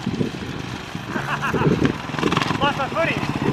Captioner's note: laughing